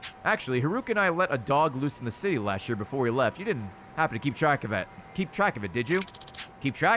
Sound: none

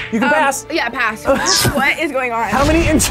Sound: laughs

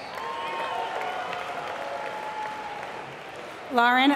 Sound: applause

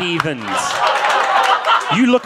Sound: audience laughing

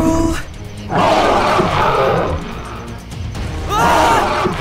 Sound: roaring

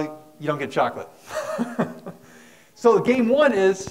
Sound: laughs

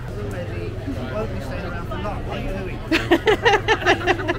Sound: laughing

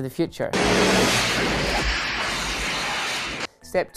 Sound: electricity sizzling

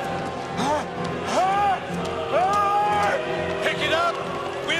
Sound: laughing

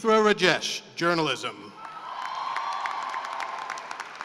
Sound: cheering and applause

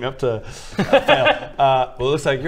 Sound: unsympathetic laughter

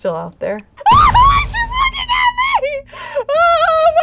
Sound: screams

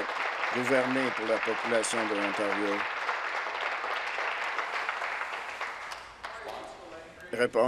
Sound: applause

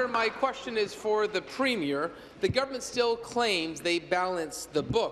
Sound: applause

